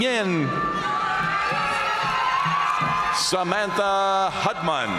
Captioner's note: audience cheering and applauding